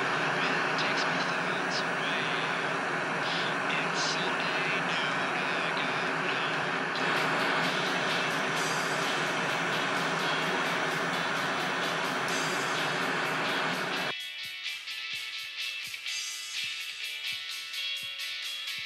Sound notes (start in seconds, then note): 7.1 static and faint music continue; 13.9 static suddenly stops, music playing faintly